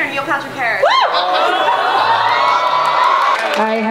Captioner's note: cheering